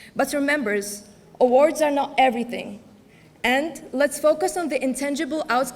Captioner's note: none